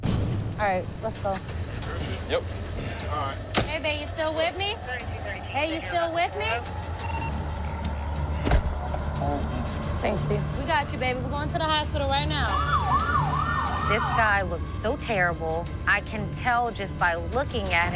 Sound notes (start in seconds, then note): 12.1 alarm blaring